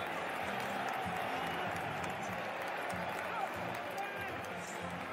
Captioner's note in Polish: Aplauz